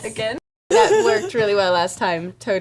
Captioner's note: laughs